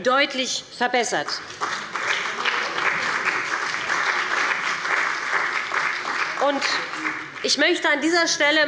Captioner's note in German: Beifall bei dem BÜNDNIS 90/DIE GRÜNEN und Abgeordneten der CDU